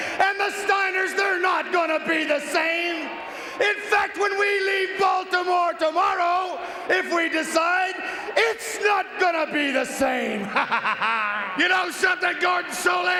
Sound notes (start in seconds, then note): 10.4 chuckles